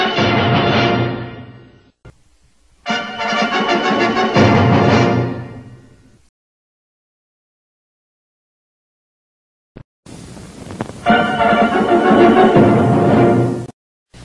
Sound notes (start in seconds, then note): 6.6 silence; 11.0 retro fanfares resuming